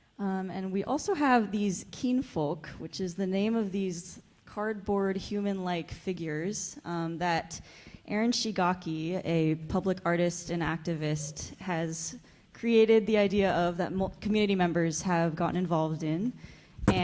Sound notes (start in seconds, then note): none